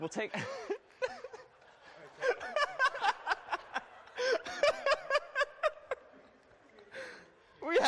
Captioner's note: laughter